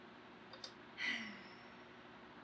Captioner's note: sighs